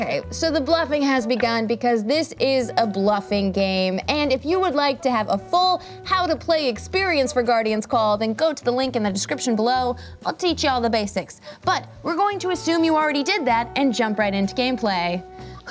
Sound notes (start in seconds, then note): none